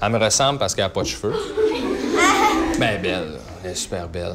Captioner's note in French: rires